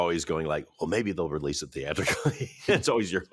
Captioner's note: laughs